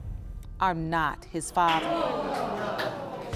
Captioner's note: audience gasping